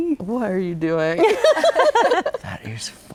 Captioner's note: guests laugh